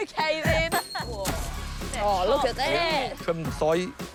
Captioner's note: both laugh